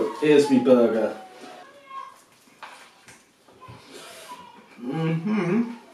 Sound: kids paying football in background

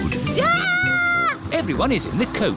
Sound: shrieks

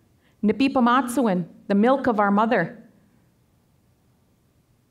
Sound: speaking Danezaa

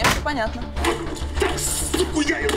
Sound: grunts

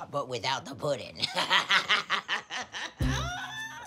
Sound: laughs

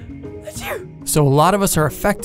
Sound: sneezing

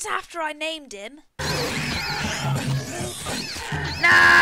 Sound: fighting noises

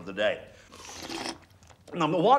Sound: slurps

